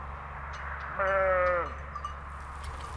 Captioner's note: bleating